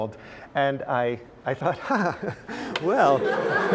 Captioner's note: laugh